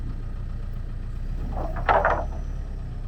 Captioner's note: truck engine whirring; wood clanking